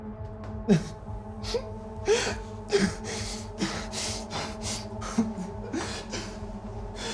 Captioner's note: brooding music; Alistair whimpering